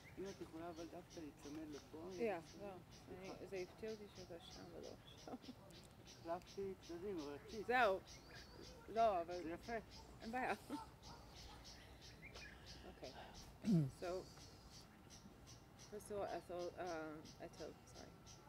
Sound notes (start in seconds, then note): 1.3 hebrew; 7.0 hebrew